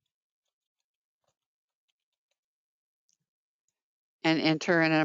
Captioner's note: 5 seconds pause